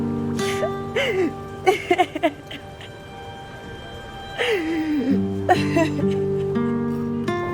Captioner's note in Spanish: Sollozos